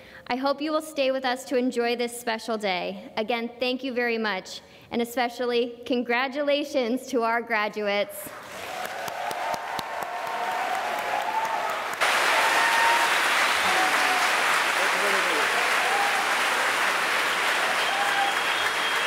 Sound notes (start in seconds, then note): 8.6 cheering and applause